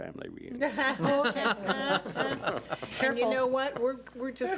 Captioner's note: laughing